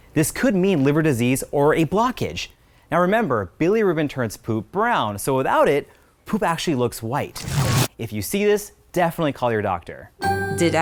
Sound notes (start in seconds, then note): 7.3 static crackling; 10.0 chime dinging